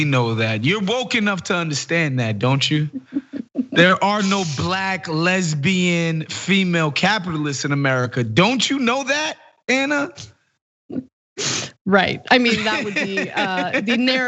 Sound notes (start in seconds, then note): 2.9 laugh; 12.3 laugh